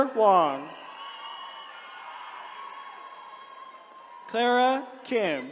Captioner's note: attendees cheering